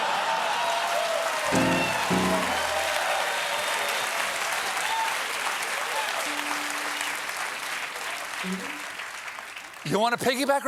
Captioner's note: cheers and applause